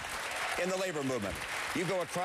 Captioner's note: applause